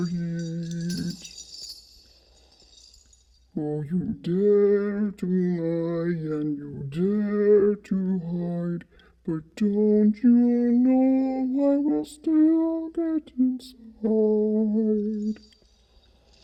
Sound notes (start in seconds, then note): 12.6 chain drags